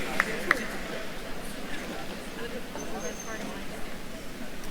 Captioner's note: attendees cheering and applauding; attendees chattering